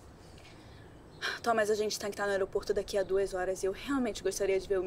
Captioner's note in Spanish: en portugués